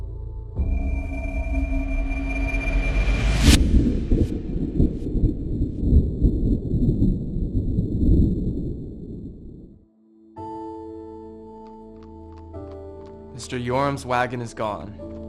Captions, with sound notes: (ominous music) (thunder rolling) (suspenseful music) - Mr. Yoram's wagon is gone.